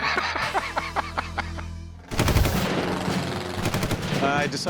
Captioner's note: laughter